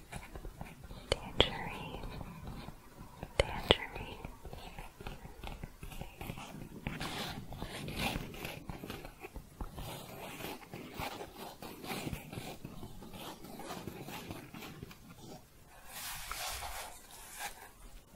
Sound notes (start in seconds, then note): 4.5 scratching and tapping